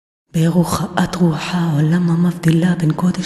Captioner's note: chanting